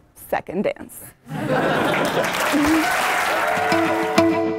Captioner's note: laugh; applause